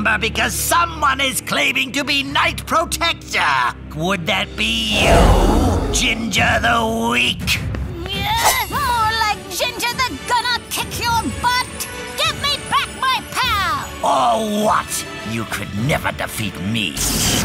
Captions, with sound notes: because someone is claiming to be Knight Protector. -Would that be you, Ginger the Weak? -[grunting] More like Ginger the Gonna-Kick-Your-Butt! Give me back my pal! Or what? You could never defeat me!